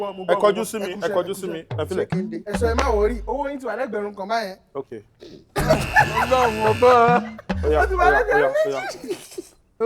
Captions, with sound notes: Yes, I heard that. Look at me. Leave it alone. You said "don't worry." Your debt is now one thousand dollars. Okay. (Everyone laughs) (Buzzer pressed) Alright. Now it's two thousand dollars.